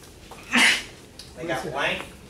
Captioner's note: student sneezing